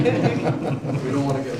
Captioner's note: laughing